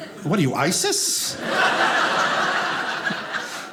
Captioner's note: audience laughing